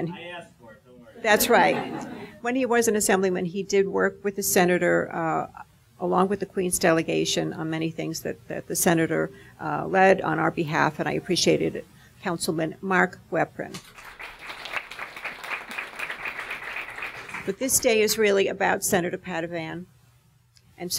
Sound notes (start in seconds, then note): 13.8 audience applauding